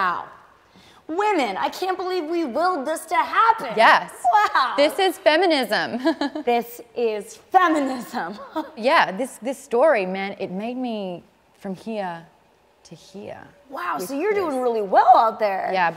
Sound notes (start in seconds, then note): 5.7 laughs; 8.3 laughs